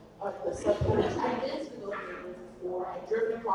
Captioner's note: audience laughs